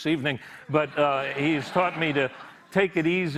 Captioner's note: laughter